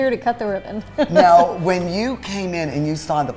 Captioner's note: laughs